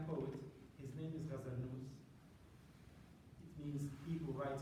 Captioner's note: non-english